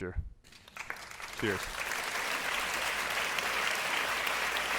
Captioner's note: audience clapping